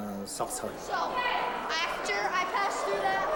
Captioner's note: overlapping chattering